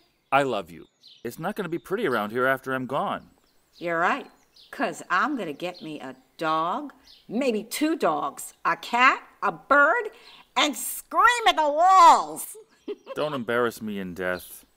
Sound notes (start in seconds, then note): 12.4 laughs